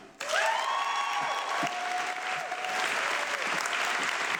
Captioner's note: audience clapping